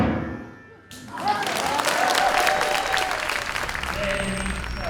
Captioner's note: lively classical music continues; audience applause